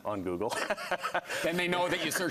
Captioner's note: laughing